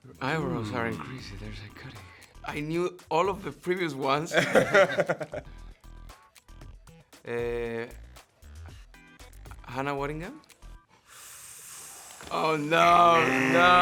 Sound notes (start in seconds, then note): 4.3 laughing; 12.7 imitates buzzer